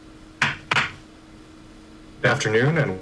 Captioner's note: gavel knocking